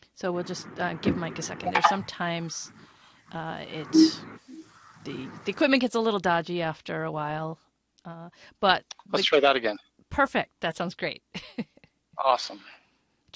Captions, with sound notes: So we'll just give Mike a second there. Sometimes the equipment gets a little dodgy after a while but-- Let me try that again. Perfect, that sounds great (laughs). Awesome.